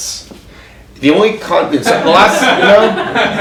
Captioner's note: audience laughs